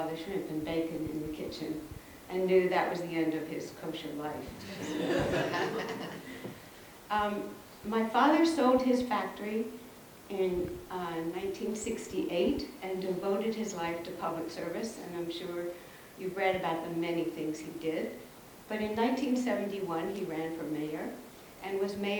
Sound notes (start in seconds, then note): 4.5 audience laughs